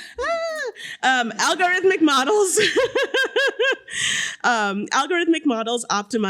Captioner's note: chuckles; chuckles